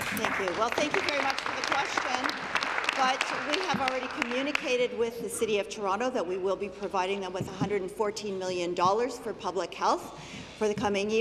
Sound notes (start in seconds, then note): 3.3 applause